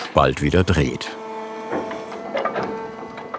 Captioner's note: machine whir